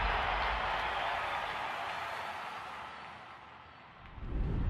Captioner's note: cheering subsides